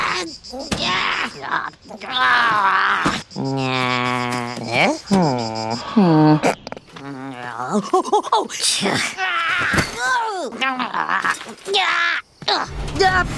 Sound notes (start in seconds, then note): 1.5 grumpy grunts; 9.8 grumbling